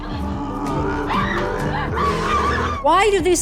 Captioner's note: woman screams